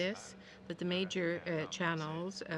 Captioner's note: speaking french